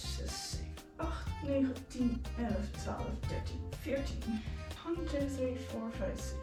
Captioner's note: weird Dutch counting from 1 to 14 noises